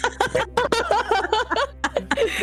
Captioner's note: laughing